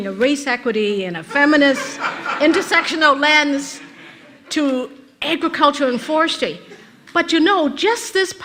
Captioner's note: rires de l'auditoire